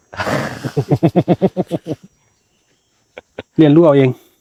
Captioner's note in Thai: เสียงหัวเราะ